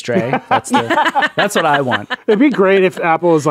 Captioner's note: laughing